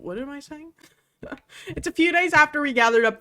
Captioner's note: laughs